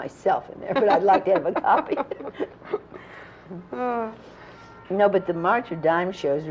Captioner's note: laughter